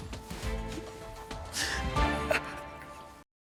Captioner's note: crying